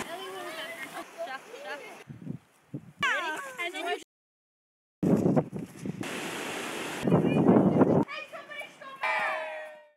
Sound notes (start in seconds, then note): 2.2 wind; 5.0 wind